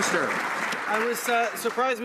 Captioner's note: some Applause